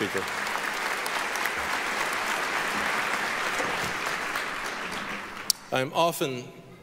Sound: applause

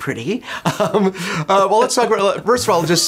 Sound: laughs

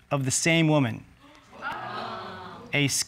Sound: audience exclaiming

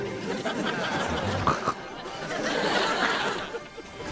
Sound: <i>snorts

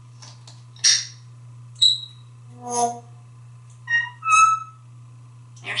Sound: tweets and whistles

